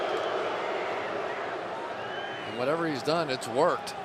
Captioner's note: booing